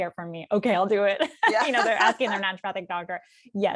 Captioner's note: laughter